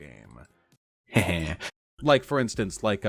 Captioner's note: laugh